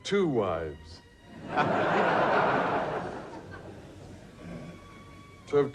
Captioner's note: audience laughs